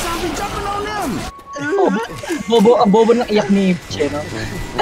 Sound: mock sobs

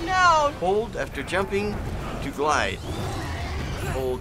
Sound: Leviathan growls

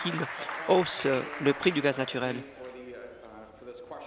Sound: applause

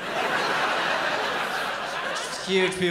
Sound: laughter

